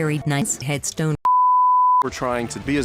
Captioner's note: bars and tone